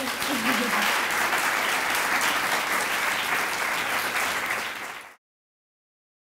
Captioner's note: clapping